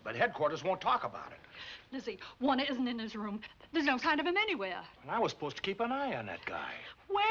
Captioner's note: none